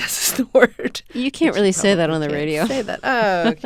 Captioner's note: soundbite of laughter